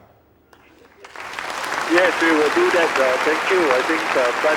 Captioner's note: applause